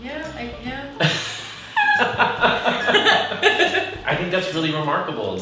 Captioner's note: both laughing